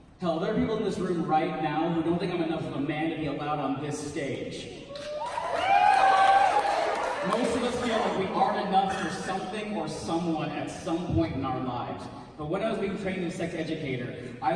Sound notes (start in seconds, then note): 4.9 cheers